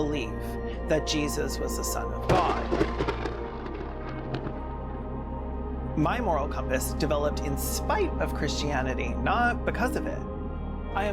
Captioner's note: thunder